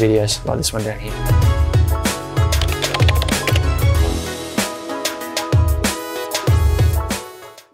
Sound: upbeat music; keyboard clatter

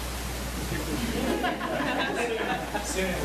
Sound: laughter

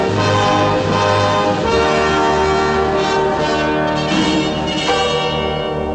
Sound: none

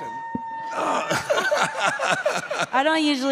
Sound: laughing

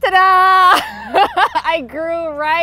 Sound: laughs

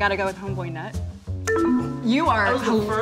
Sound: sad beeping sound

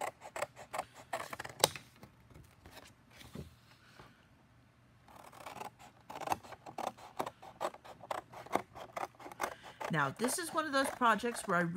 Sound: scissors cutting

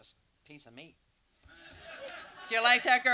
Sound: audience laughter

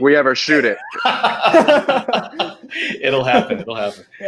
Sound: all laughing

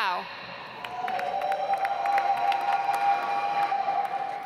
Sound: audience applauds

